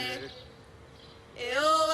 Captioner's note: chanting